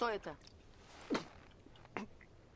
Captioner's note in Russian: поперхнулся